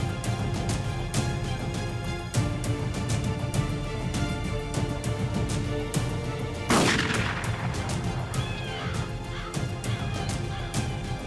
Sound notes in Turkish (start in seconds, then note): 6.6 Silah Sesi